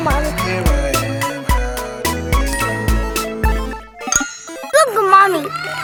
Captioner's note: magical ting